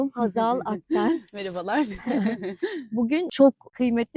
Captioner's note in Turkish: kahkaha